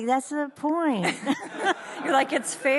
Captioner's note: audience laughs